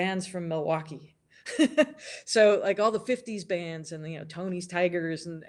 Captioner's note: laughs